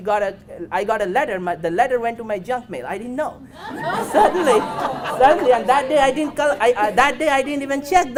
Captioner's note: audience laughs